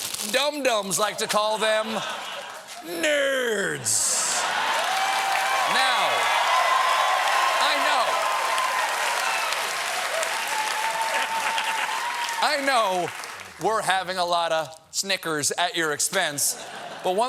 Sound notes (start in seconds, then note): 4.0 cheers and applause